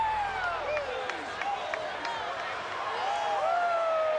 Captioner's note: dramatic music; crowd cheering